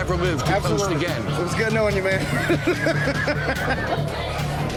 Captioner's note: laughs